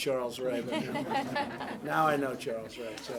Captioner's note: laughter